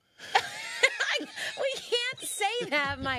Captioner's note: both laughing